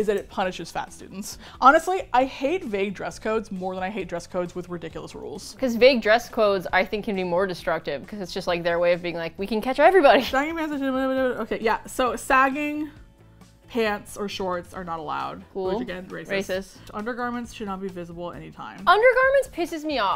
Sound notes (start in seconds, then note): 9.7 laughs; 14.2 dryly